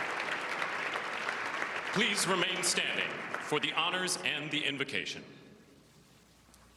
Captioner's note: applause